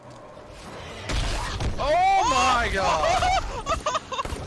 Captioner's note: yelling; misery